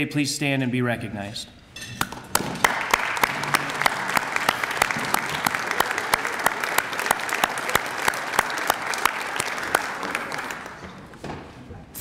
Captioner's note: applause